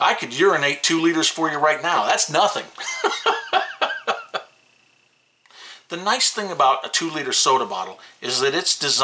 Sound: laughs

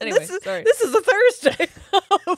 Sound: both laughing

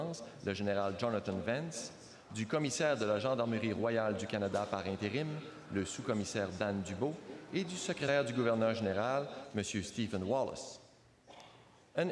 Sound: speaking French

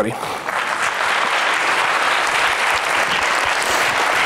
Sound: foreign speaking; applauds

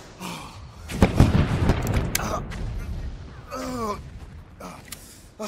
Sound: explosion booming

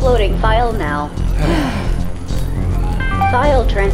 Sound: Curie and Auliver sigh with relief

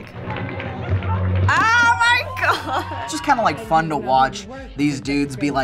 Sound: chuckles

